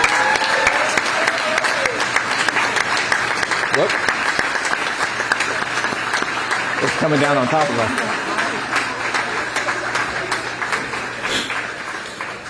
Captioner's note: applause